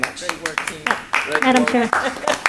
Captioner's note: applause